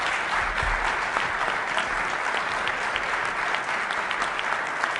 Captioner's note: applause